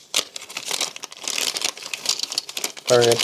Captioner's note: plastic crinkling